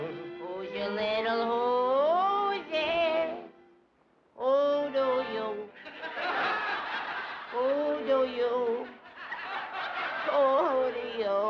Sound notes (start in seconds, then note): 5.8 laughter